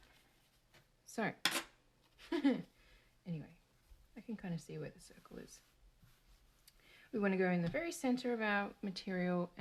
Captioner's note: nervous giggle